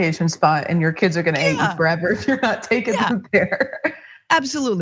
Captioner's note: laugh